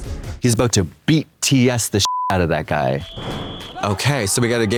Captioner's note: beep